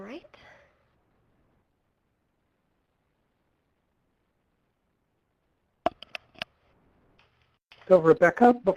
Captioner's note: pause